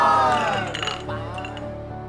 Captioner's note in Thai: เสียงชนแก้ว